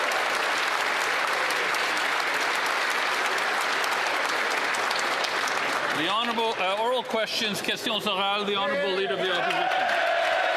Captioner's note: applause